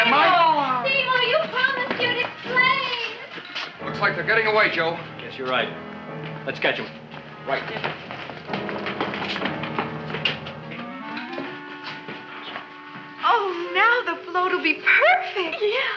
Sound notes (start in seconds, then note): 8.9 feet thumping